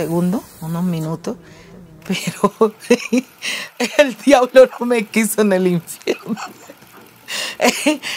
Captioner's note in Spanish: ríe